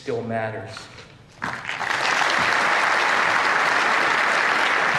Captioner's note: applause